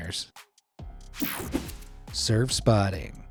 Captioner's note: screen whooshing